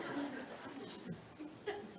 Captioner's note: audience laughs